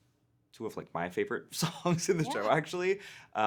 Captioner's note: laughing